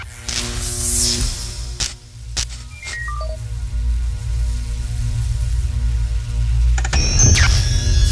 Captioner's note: electronic sounds